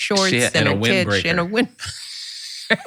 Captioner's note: laughing